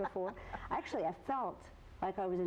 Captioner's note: laughs